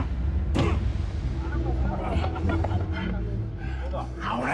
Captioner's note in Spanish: Golpes